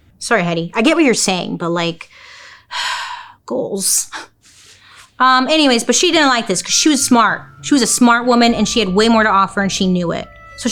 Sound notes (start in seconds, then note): 2.2 sigh